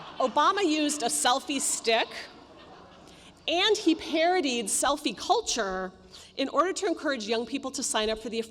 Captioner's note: laughter